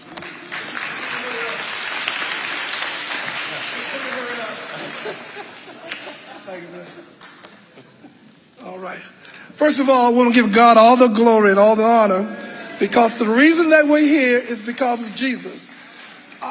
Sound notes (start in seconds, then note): 0.0 audience applauding; 12.3 audience cheering